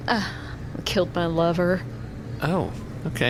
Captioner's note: sighs